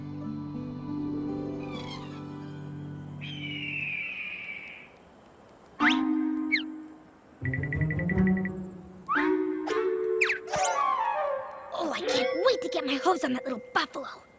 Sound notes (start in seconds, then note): 3.2 bird screeches; 10.2 sloop! Whip! Slump! Zip!